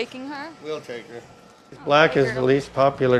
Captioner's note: chuckles